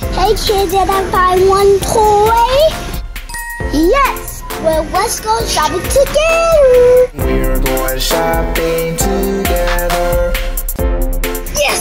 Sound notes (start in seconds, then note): 3.2 chiming